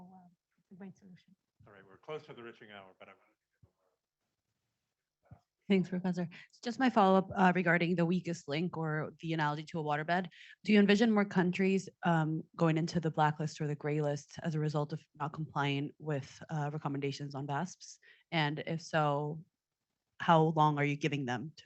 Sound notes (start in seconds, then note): 4.2 speaking faintly